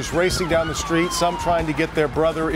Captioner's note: sirens